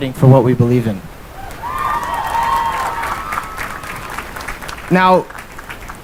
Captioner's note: cheering and applause